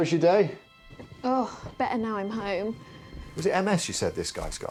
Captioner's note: sighing